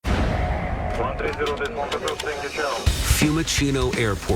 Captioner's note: radio chatter